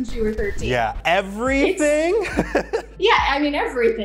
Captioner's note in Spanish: risas